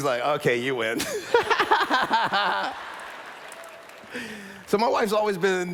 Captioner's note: laughter